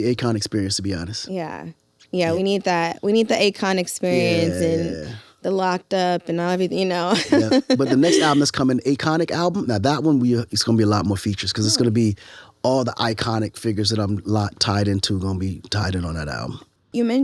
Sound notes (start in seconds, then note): 7.1 laughs